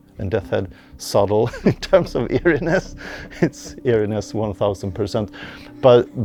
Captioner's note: laughs